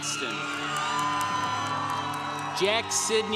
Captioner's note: congregation cheering